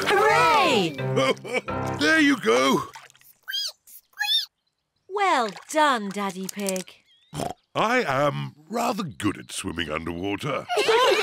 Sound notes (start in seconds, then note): 1.1 laughs; 3.6 squeaks; 7.4 oinks